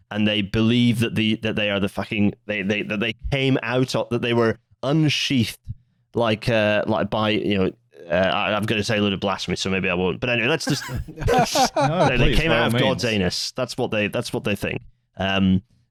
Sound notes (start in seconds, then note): 10.6 laughs